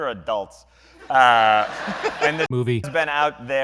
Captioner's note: laughter